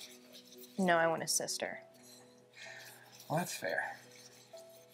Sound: water running

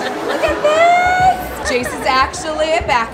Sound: laughing

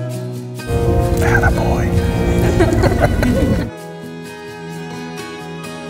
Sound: officiant whispers

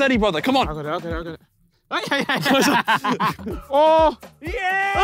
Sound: Tobi laughs

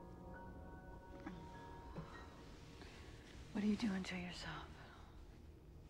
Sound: groaning

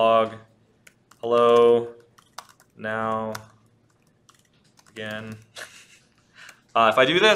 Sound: snickers

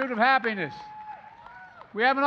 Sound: applause

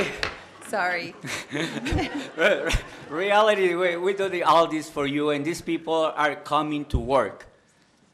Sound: laughter

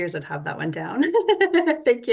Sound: laughing

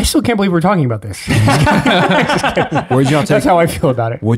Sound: group laughs

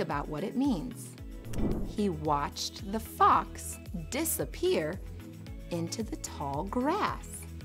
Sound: air whooshing

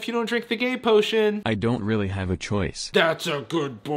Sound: robot AI voice

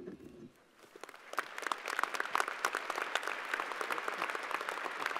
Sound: audience applauding

